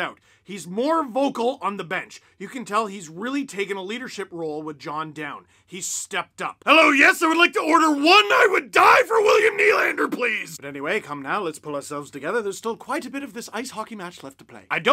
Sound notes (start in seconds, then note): 9.9 a very bad British accent